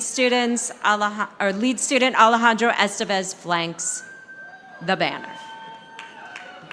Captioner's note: audience applauding